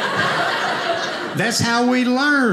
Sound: audience laughing

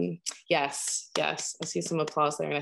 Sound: claps

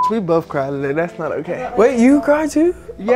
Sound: beep

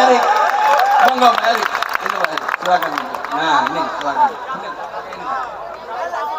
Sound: applause

